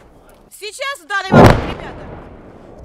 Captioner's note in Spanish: Explosión DEMASIADO cercana